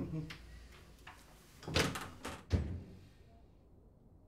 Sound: door closes

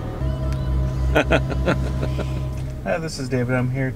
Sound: laughing

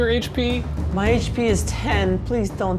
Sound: voice cracking

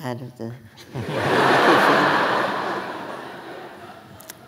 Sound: audience laughing

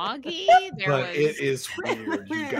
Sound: laughter

